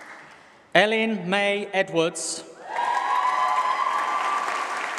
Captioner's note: applause